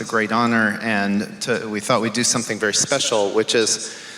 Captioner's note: none